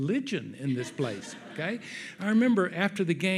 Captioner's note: audience laughs